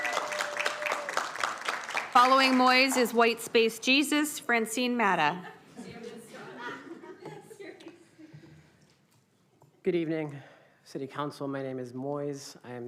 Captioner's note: applauding